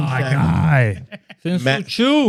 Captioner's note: laughing